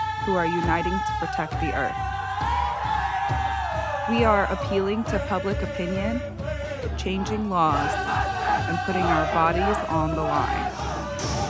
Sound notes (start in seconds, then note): 2.2 protesters cheering; 11.2 objects banging